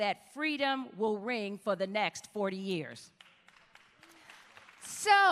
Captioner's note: applause